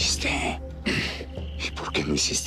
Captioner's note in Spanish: Vicente carraspea